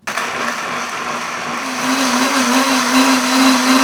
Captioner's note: blender whirring